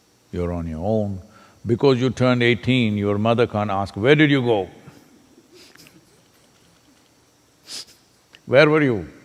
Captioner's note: laughs